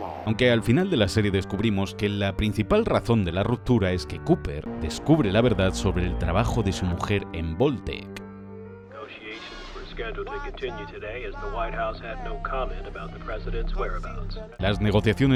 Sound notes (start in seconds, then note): 8.9 radio